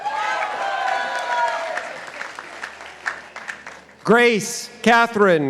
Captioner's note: participants applauding